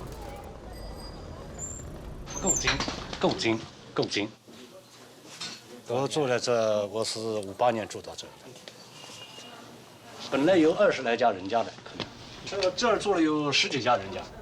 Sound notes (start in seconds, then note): 2.7 speaking Chinese